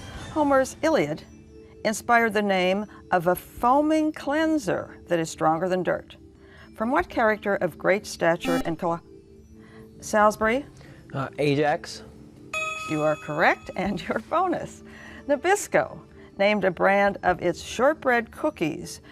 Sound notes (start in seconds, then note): 8.4 buzzer